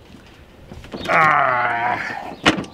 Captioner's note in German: Stöhnt